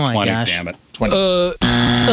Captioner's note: buzzer